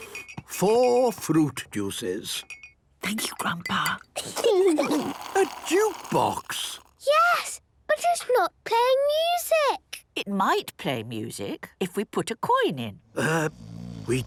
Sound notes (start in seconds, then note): 2.7 Granny whispering; 4.2 children giggling; 13.1 people snoring